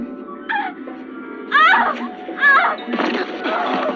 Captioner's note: Leslie yelling